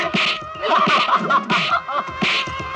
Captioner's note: laughs